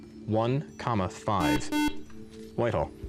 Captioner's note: beep